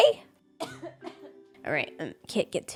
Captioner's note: coughs